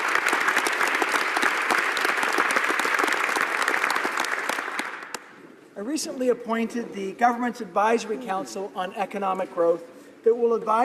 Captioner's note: applause